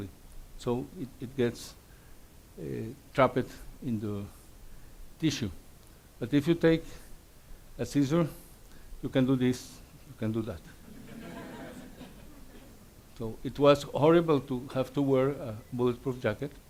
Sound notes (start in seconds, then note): 10.8 audience laughs